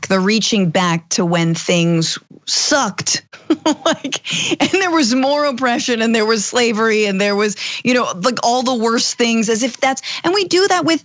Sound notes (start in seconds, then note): 3.4 laugh